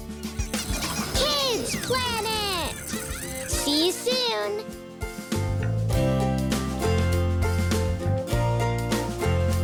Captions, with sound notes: (squeaking) Kid's Planet! See you soon. (upbeat instrumental music)